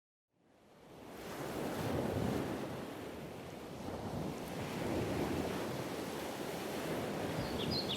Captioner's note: sound of waves; birdsong